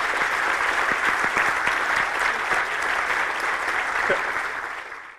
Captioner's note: applause